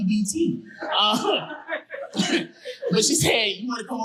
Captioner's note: audience laughing